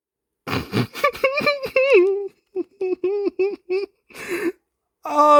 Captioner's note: joyful laughter